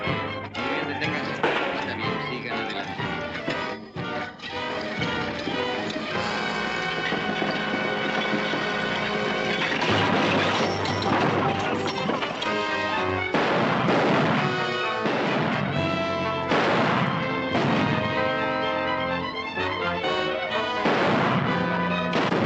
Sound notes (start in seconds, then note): 9.6 crash; 13.1 tense music - gunshots